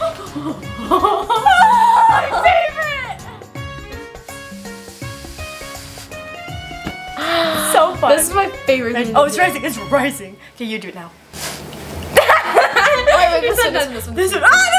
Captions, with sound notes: - Ahhh My favorite! (gasps) - So fun. - This is my favorite thing to do. - Oh it's rising. It's rising! Okay you do it now. (laughter) - Oh wait wait this one.